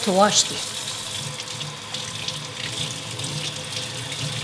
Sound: water flowing

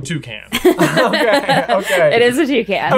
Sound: laughing

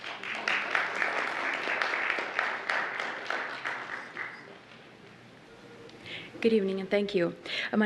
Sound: applause

